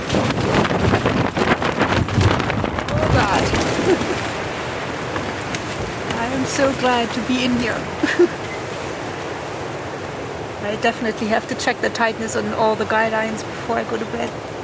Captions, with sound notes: [Wind rattles the tent] Oh god! [laughs] I am so glad to be in here. [laughs] I definitely have to check the tightness on all the guy lines before I go to bed.